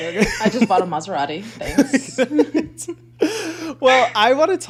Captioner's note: both laughing